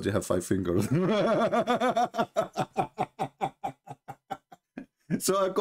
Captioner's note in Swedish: Skratt